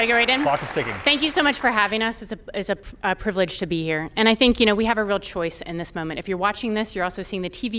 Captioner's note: applause